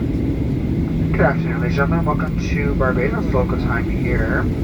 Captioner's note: announcement